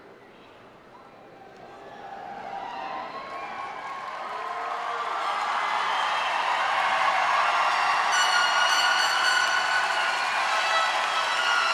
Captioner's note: cheers and applause